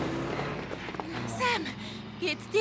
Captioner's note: gasp